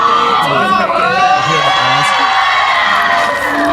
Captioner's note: ARMYs cheer